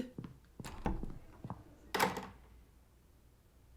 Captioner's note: footsteps, door opens and closes